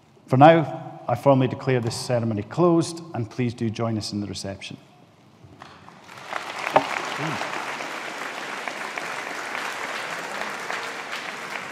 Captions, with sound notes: For now, I formally declare this ceremony closed and please do join us in the reception. (AUDIENCE APPLAUDING)